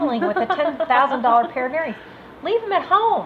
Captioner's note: laughs